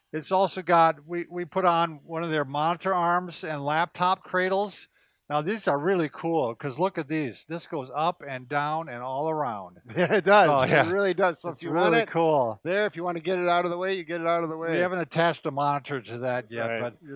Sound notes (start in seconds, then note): 9.9 laughs